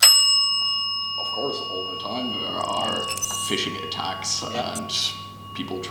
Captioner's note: rings the bell